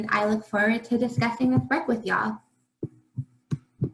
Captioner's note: faintly speaking